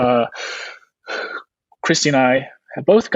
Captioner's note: huffing